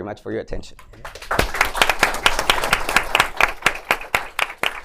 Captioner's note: applause